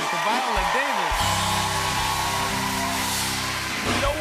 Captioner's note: cheers and applause